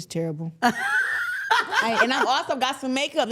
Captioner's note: laughing